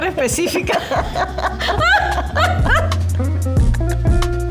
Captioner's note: laughs